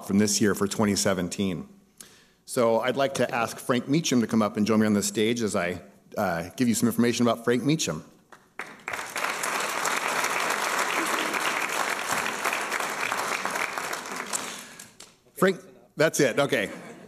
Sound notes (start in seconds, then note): 8.3 applause